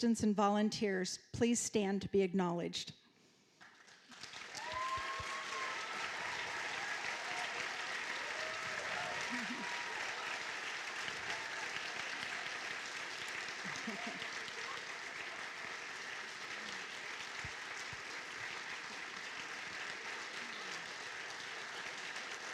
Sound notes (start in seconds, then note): 5.7 cheers and applause